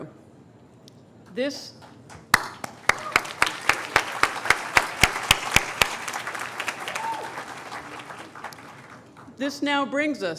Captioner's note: applause